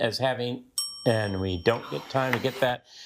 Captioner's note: timer dings